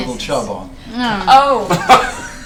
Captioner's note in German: lacht; stöhnt